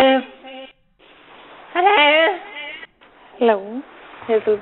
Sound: phone ringing; baby crying

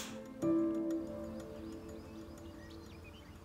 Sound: birds chirping

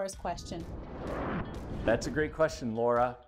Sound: sound wave

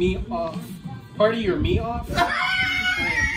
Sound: laughing

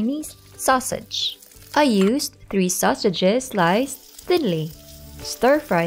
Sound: oil sizzling, Music

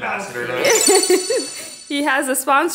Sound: electronic sounds

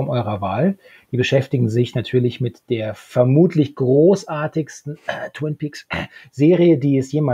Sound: cough twin peaks hust

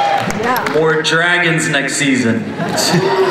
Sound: voiceover; laughter

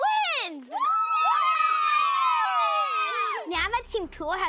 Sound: cheering

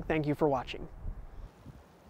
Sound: forest sounds

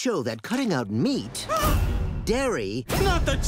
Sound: gasps

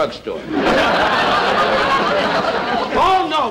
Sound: audience Laughing

